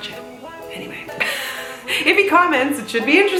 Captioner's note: laughs